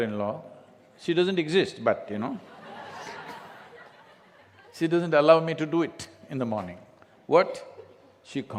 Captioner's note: laughter